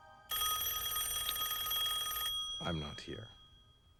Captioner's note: telephone rings